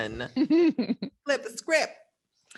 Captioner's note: laughs